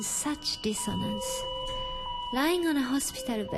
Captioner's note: alarm beeping